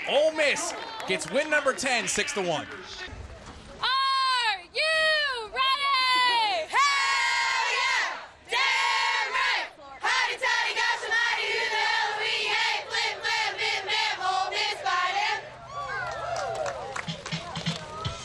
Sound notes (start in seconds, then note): 15.6 cheering